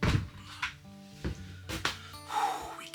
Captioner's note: sighs